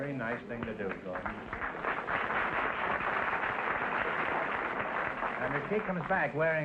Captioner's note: applause